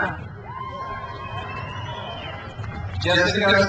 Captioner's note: crowd cheers